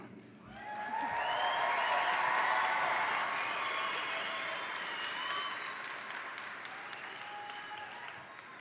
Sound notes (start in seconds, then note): 0.5 attendees cheer; 0.5 attendees applaud